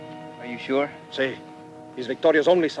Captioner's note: Ramirez speaks Spanish